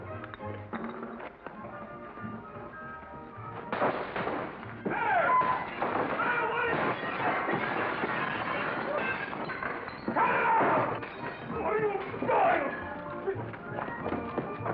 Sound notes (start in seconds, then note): 3.5 bartender yells; 3.6 glass breaking